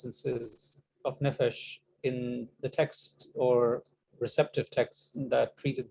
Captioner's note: speaking hebrew